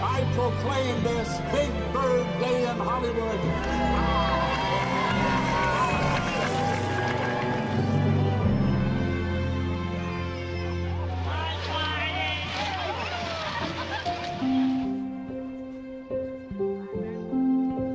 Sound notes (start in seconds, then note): 9.1 cheers and applause